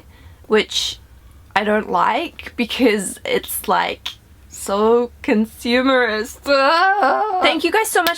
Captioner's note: uuuuugghhhh~